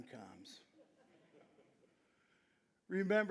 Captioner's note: audience chuckling